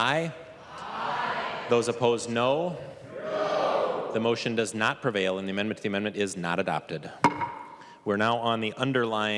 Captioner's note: chorus of ayes